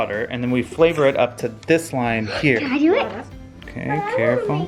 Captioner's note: gasps